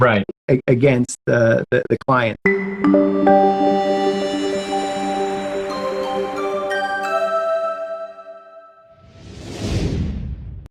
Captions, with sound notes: Right. against the client. (cheerful music) (logo swooshing)